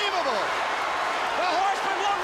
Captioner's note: crowd cheering